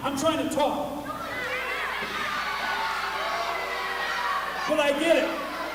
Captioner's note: crowd yells